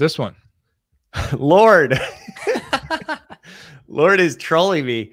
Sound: laugh

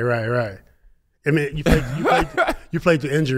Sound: laughs

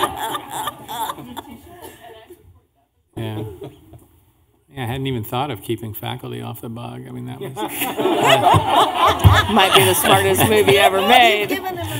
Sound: laughing

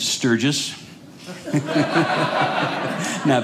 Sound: audience laughing

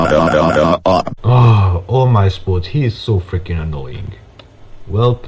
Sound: sigh

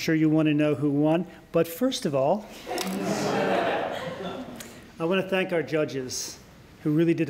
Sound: laughter

